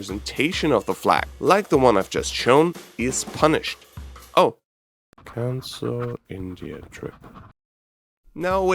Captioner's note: scribbles